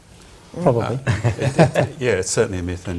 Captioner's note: chuckles